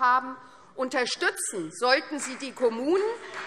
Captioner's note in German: Vereinzelter Beifall Freie Demokraten